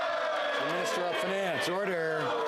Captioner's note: some Applause